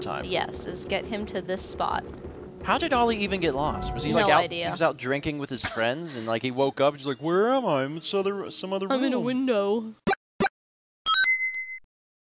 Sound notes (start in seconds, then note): 5.5 chuckles; 11.1 ding!